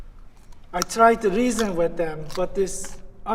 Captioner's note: crunching